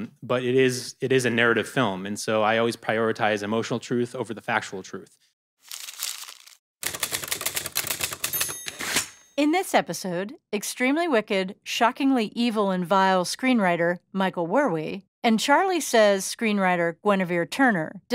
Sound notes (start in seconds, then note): 5.6 paper crumples; 6.8 typing; 8.0 typewriter ding